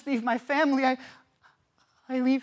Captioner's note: soft sharp breaths